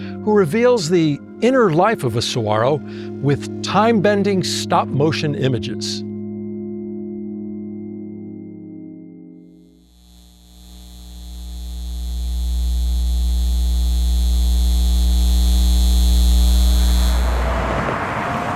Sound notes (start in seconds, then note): 9.7 light buzzing; 16.5 cars driving